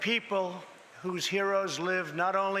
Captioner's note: none